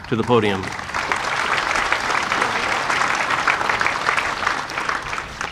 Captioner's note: audience applauding